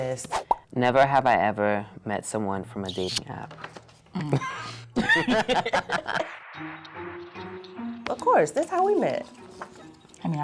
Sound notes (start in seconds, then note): 4.1 both laughing